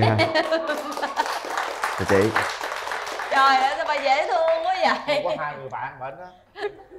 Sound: applause

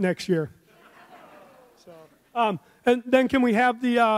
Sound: audience laughs

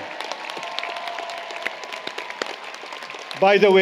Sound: applause, Cheering

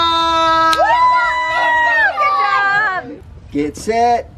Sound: cheering

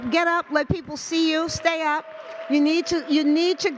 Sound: audience cheers

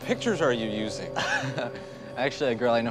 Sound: laughing

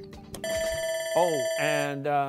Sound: bell rings

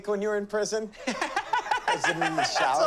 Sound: laughing loudly

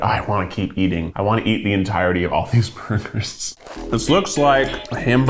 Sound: laughs

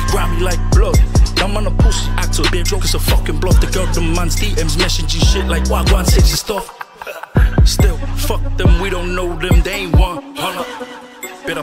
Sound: hahaha

